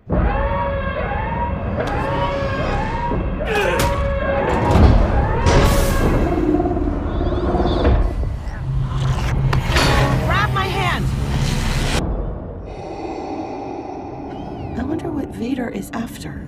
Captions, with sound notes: [ALARM BLARING] [GRUNTING] - Grab my hand. [DARTH VADER BREATHING] - I wonder what Vader is after.